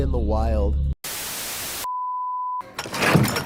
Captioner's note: static